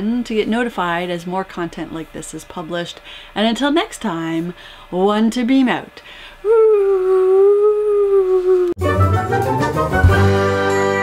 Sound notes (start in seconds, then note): 6.5 whooo; 8.8 end music